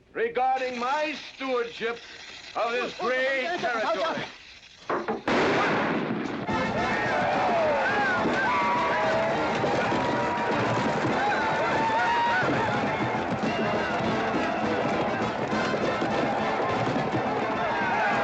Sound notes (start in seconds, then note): 4.1 fuse hissing; 5.2 loud bang; 6.3 western rodeo music; 6.4 crowd cheering